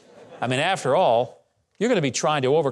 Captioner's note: audience laughing